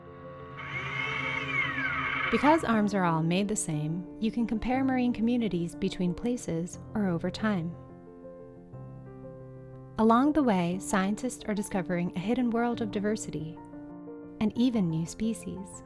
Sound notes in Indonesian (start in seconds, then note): 0.1 suara mesin